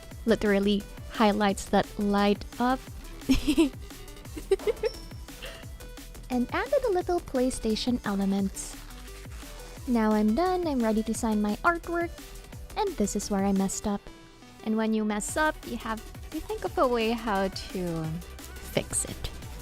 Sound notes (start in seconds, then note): 4.3 laughs